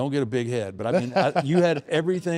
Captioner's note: laughs